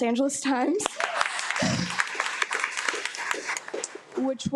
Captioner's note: attendees applaud